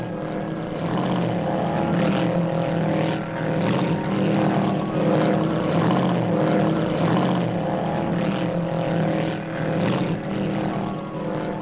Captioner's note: sound of speed boat engine